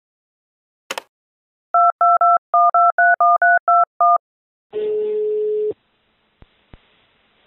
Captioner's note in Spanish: phone dialing; teléfono marcando